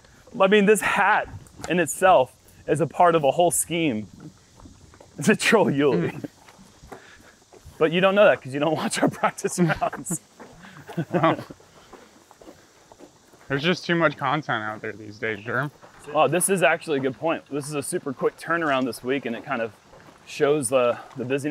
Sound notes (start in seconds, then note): 10.4 chuckles